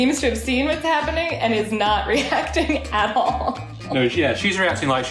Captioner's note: laughs